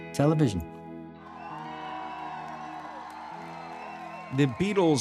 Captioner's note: crowd cheering